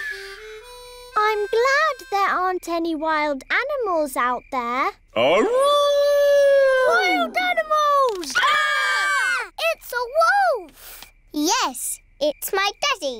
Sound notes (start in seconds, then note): 5.2 howling; 7.9 all screaming